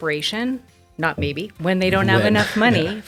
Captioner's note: laughing